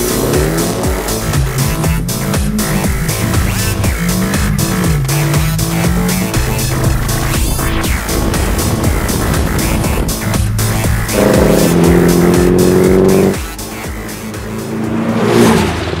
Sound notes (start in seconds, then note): 11.2 exhaust noise in the distance; 14.9 cars pass